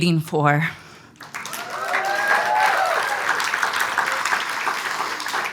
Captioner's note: audience applauds